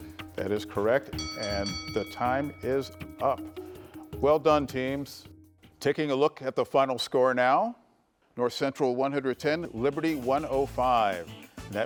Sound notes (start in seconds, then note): 1.1 bell chimes